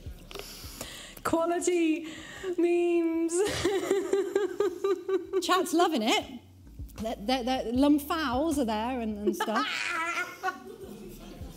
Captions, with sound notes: Quality memes. (laughs) Chad's loving it. The lump fouls are there and and stuff.